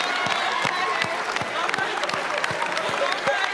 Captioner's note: cheers and applause